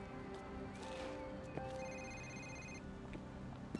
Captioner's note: phone rings